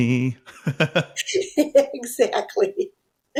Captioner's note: both laughing